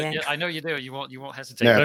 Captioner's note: laughing